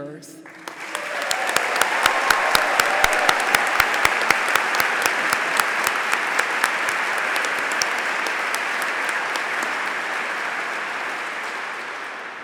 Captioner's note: applause